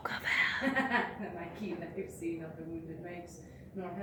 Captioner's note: laughs